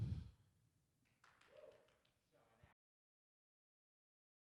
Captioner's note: exhales gently; low soft cheer